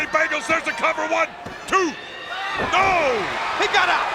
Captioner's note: hands thudding